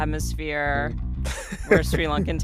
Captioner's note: laughter